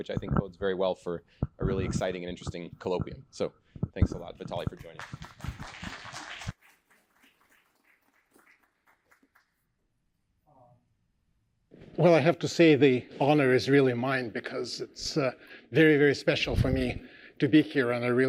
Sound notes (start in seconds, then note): 4.6 applause